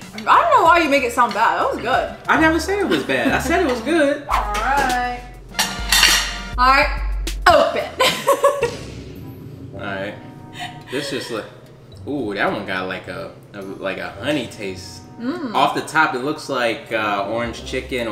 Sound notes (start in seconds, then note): 5.5 plate clanks; 8.0 laughs